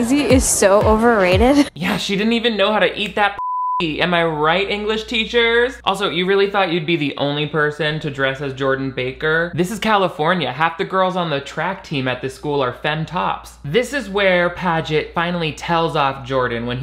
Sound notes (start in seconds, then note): 3.4 beep